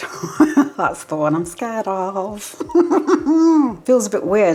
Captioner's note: nervous laugh